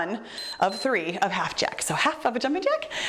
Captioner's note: timer beeps